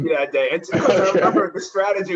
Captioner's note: laughter